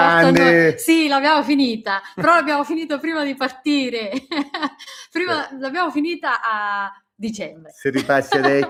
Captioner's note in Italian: risate